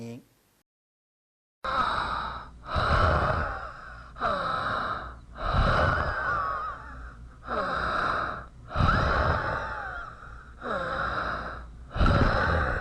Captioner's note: breathing heavily, more exhalation and less inhalation; 喘息气粗 呼多吸少